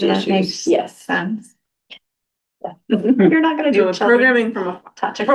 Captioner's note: laughter